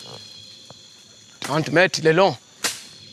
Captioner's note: foreign language